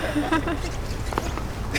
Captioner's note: gülme sesi